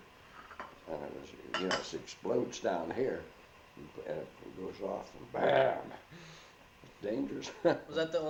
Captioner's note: chuckles